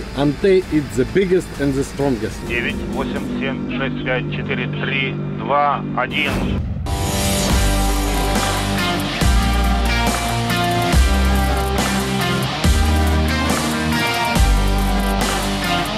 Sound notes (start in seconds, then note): 2.5 speaking in foreign language; 6.9 upbeat music